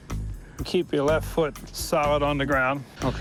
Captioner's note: none